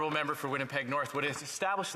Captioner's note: some Applause